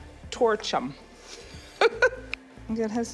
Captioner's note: laughs